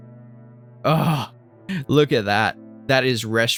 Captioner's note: good salivating moan